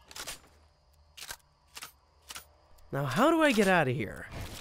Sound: gun clicks

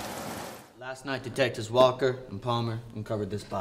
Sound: NY accent

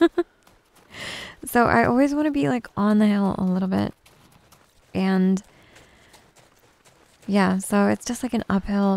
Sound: giggles

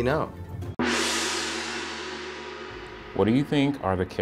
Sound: gong resounds

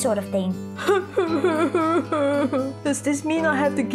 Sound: Luisa sobs

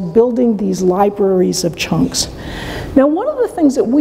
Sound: none

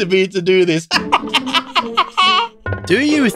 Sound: laughs

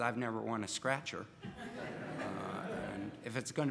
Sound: audience laughs

